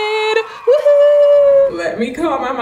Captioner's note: cheering